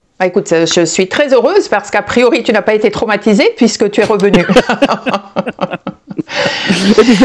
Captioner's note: laughs